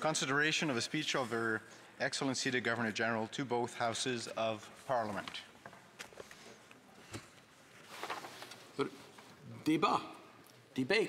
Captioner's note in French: voix de l'interprète